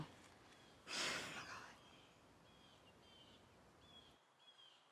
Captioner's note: daughter sighs